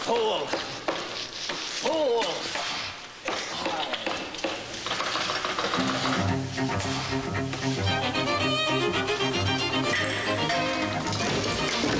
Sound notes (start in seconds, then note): 2.7 jiggles doorknob